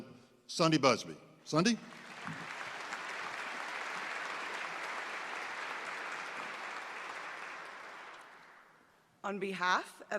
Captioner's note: applause